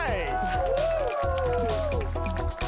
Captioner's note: crowd applauds, shouts